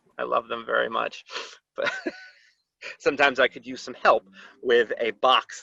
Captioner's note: laughter